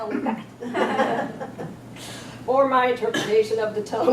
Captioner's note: audience laughs